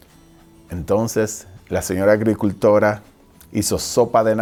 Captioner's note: speaking foreign language